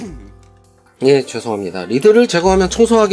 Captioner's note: cough